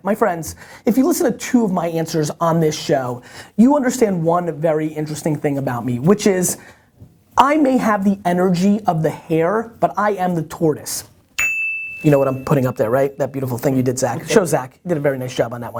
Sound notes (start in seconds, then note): 11.4 bell ringing